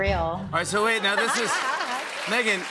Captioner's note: laughter and applause